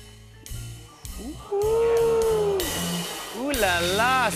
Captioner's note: audience oohs